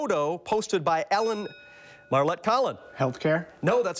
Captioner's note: bell dings